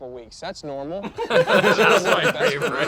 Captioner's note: laugh